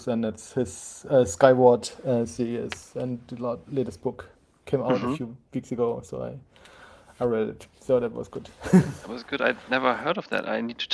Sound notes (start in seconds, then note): 8.8 chuckling